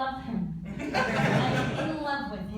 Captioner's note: laughter